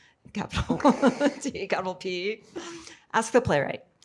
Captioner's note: chuckles